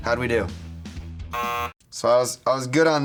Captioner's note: buzzer buzzes